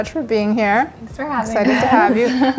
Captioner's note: laughs